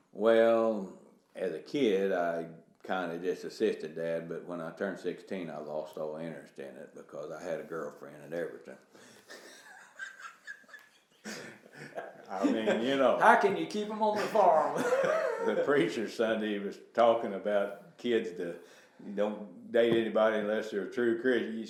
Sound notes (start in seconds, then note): 8.9 laughing